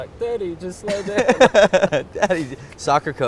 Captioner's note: laughs